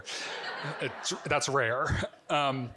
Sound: audience giggling

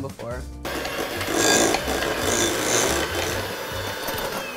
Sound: mixer whirring

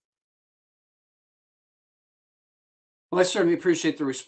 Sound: A pause

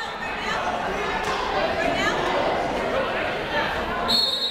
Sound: people talking in the crowd; whistle tweeting

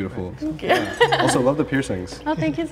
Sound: laughs

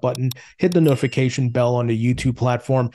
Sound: bell dings

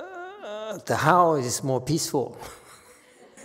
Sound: laughs

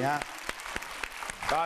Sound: clapping hands

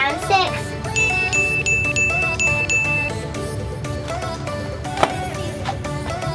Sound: ding ding ding ding ding ding

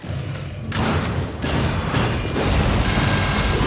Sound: guns firing

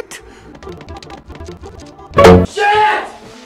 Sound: frantic Stepping, Thump

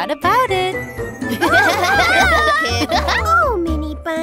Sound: laughter

